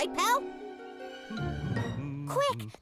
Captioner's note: magistrate humming